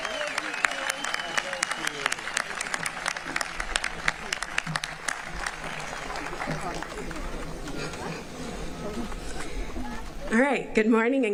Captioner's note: applause